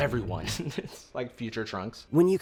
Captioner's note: chuckles